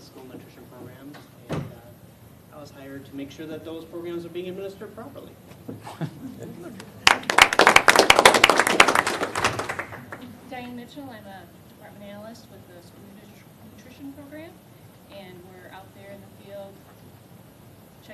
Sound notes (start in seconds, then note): 6.8 applause